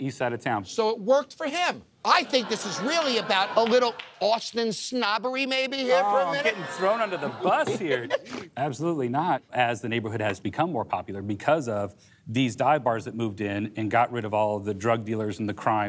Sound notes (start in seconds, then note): 6.0 laughs